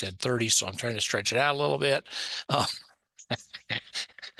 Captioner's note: laughs